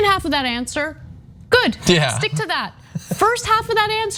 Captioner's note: laugh